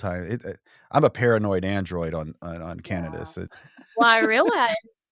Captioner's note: laughs